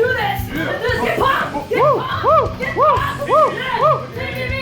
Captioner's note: yelling